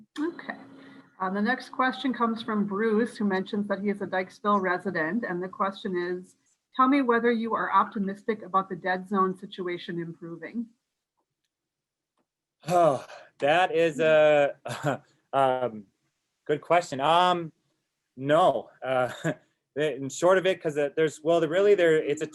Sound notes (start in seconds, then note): 12.6 sighs